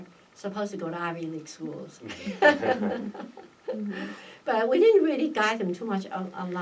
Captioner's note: laugh